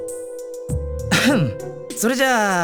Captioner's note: clears throat